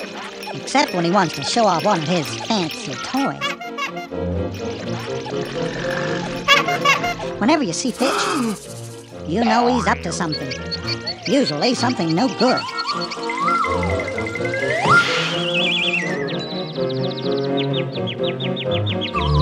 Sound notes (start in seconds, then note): 4.9 growl